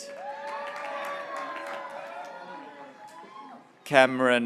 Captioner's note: graduates cheering